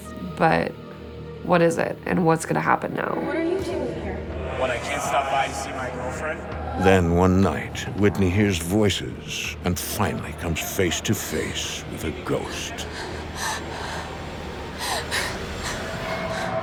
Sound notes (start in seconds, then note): 12.7 Whitney whimpering